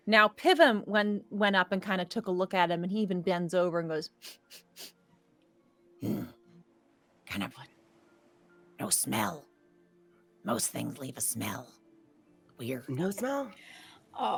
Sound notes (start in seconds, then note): 4.2 Pivam sniffs